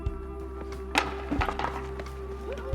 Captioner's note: wooden racket drops